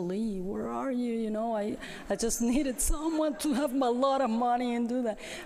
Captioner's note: laughter